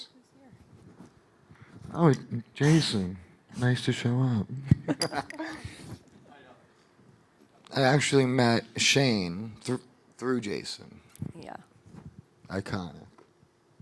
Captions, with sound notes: - Oh look who's here. - Oh Jason, nice to show up (laughing) I actually met Shane through Jason. Iconic,